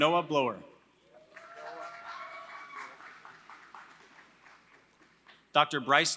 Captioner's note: applause